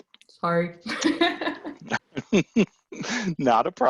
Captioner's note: both laughs